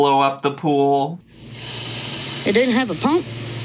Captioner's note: blowing